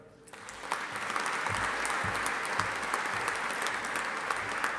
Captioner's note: audience applauding